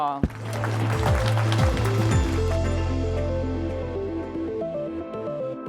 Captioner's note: group applauding and lively music